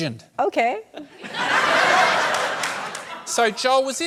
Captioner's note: laughter